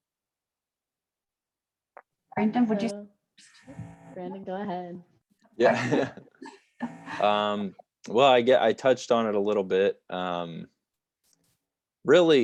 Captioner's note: laughter